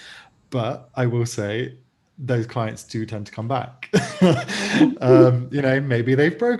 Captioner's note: laughs